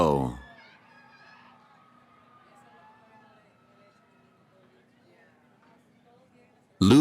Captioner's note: cheering